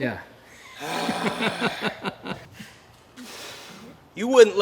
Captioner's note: chuckles and annoyed sigh